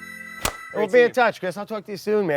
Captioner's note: hands slap